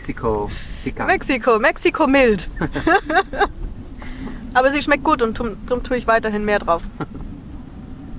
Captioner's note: laughs